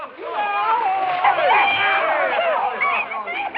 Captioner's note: yelling and whooping